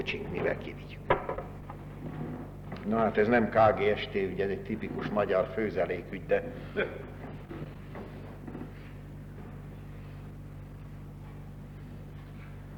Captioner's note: laughter